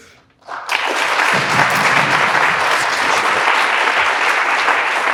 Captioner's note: audience applauds